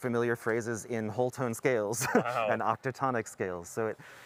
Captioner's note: laughter